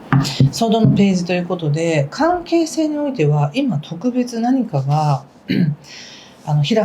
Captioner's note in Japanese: 咳払い